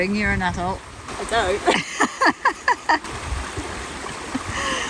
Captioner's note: giggles